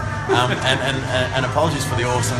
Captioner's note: laughs